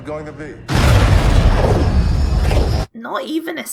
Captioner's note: hyperspace noises